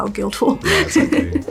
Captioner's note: laughs